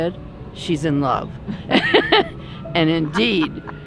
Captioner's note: laughs